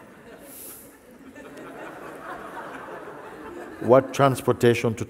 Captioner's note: laughter